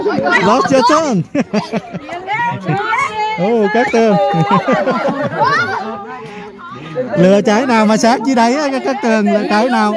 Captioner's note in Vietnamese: Tiếng cười